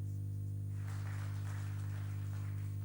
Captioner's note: applause